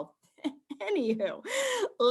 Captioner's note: chuckles